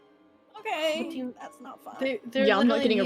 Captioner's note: strained